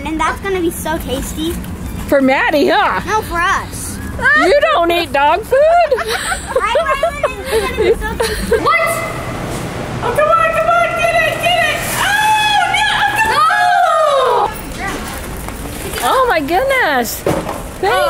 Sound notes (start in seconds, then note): 6.1 kids talking and laughing